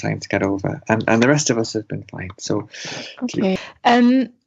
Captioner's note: inhales